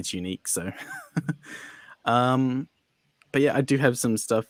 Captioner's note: laughs